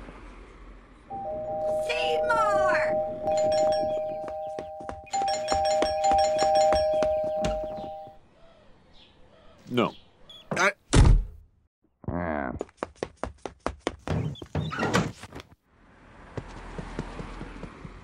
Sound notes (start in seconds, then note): 1.1 doorbell starts ringing incessantly; 3.2 footsteps inside; 3.8 doorbell continues ringing; 7.3 door opens; 10.9 door slams; 14.6 door and window slam open; 16.3 footsteps running away